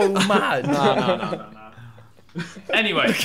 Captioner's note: laughing